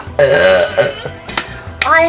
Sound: burp

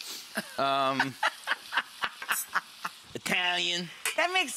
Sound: laughing

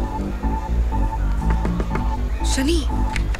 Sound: door knocking

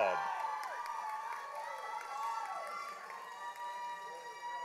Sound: audience applauding

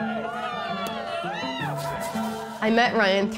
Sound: cheering; champagne spraying

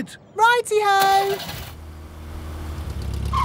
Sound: car engine starts

